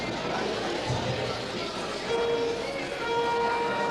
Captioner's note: audience talking quietly